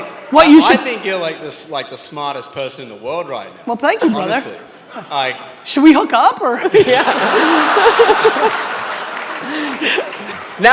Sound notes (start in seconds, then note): 6.6 audience laughs; 6.8 laughs